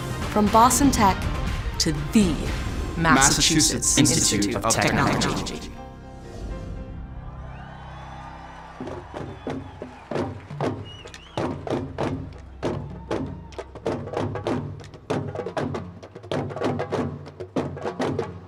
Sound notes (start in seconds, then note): 7.1 cheering; 10.6 drumming